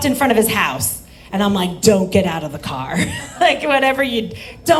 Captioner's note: laughs